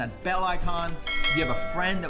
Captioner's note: bell rings